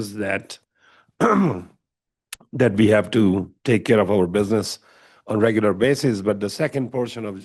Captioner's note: clears throat